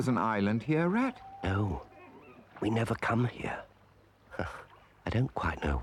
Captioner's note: scoffs